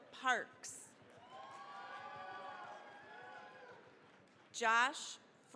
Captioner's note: cheering, applause